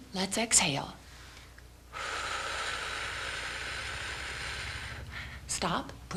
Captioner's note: breathing